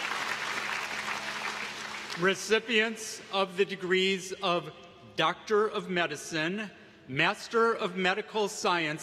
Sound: applause

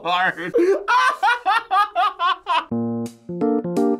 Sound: laughs; quirky interlude

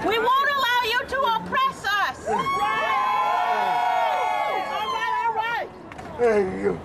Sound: crowd cheers

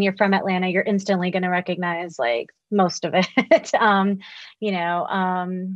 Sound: laughs

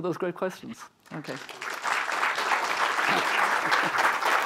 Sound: applause

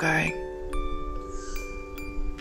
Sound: annoying squeaky bird

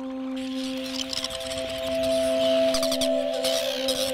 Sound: birds chirping; light music

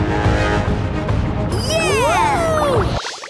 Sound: cheering

